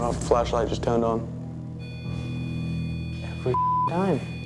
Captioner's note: beeping